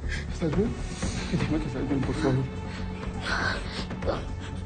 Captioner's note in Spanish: Quejidos